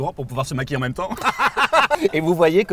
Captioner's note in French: rires gras